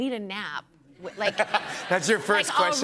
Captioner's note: laughter